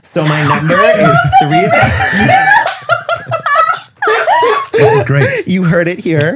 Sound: laughing

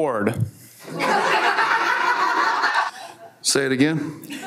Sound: everyone laughs

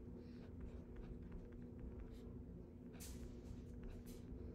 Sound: pen scratching

